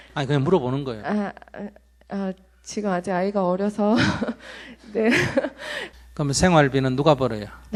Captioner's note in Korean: 질문자 웃음